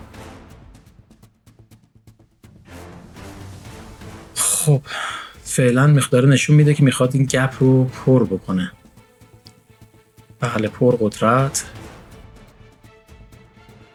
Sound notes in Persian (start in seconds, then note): 4.4 صدای آه; 4.4 صدای بند آمدن نفس